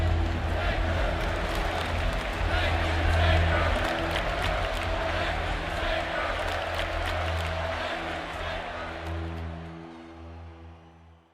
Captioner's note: crowd cheering